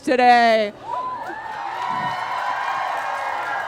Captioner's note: crowd cheers, eager for blood